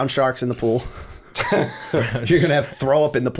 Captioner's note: laughter